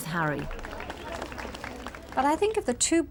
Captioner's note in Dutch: publiek applaudisseert